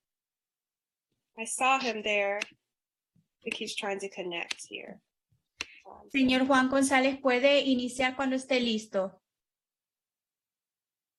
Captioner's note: spanish